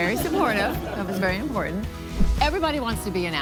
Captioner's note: audience laugh